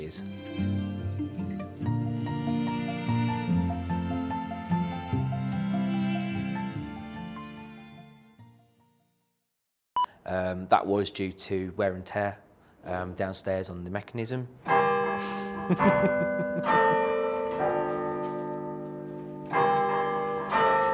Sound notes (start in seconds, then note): 14.5 clock chiming; 15.4 laughs; 16.5 clock chiming